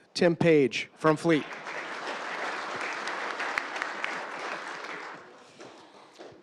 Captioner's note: applause